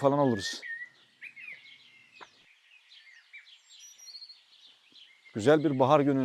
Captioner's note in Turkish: Kuş sesleri